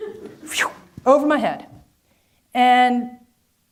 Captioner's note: whooshes